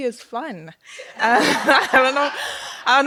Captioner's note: laughter